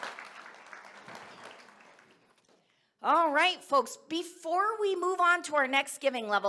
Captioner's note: cheers and applause